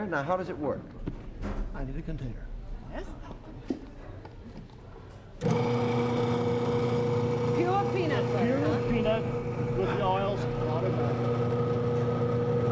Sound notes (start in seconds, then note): 5.4 machine running